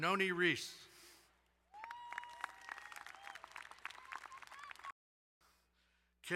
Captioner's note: crowd cheering and applauding